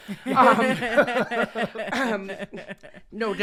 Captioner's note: all laughing